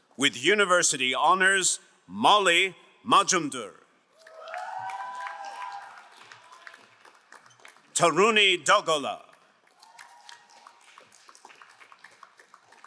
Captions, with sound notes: With university honors, Molly Majamdur. (crowd cheering and applauding) Taruni Dalgala. (crowd applauding)